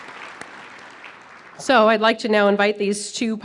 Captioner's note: applause